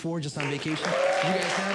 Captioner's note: audience Clapping